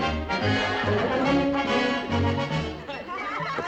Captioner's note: laughter